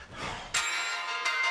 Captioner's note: over tv